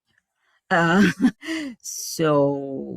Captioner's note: chuckles